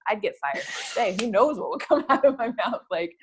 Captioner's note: laugh